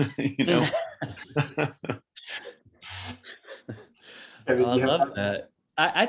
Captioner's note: laughs